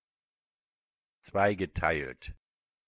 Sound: fast Pronunciation

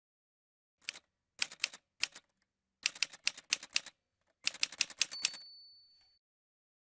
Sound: typewriter sounds

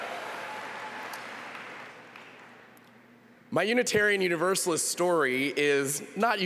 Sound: applause

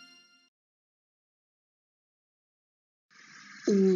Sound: silence

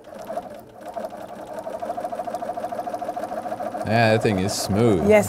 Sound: sound of sewing machine

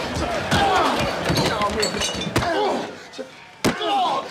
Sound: fist punching body; grunting; body hitting ground; feet kicking body; grunting

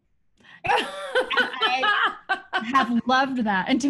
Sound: laughing

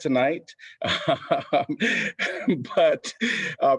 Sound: laughter

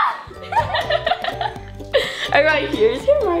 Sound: laughing

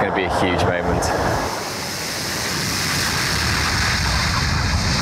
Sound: plane whizzing

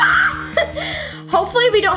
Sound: screams

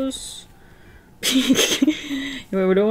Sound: giggles

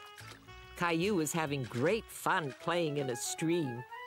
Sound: none

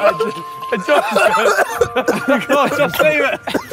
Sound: Tobi coughing

